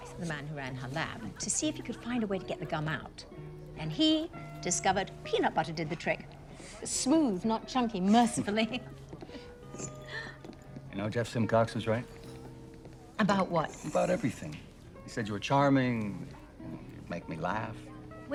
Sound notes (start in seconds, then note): 8.9 both chuckle